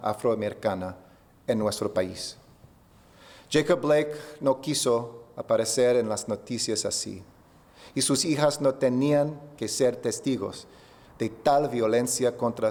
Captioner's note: remarks in spanish